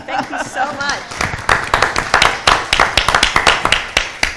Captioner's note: applause